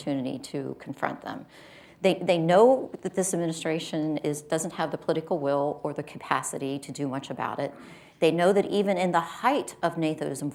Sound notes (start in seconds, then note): none